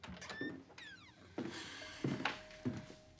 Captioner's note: sighs